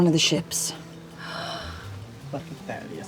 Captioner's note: gasps